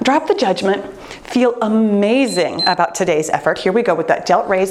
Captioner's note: timer beeps